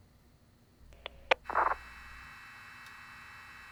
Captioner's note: radio crackles